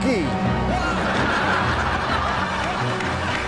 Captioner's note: audience laughs; suspenseful music